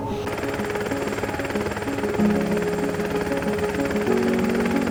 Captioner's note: helicopter rotors whirring